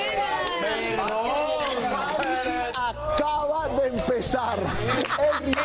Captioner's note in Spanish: risas